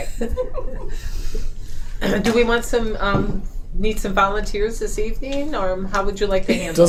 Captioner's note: laughing